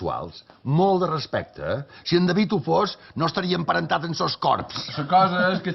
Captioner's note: laughs